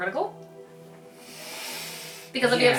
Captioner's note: the deepest of breaths